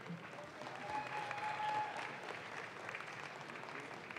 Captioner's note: audience claps